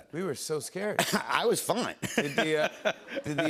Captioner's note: laughs